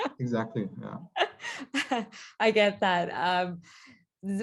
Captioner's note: laughing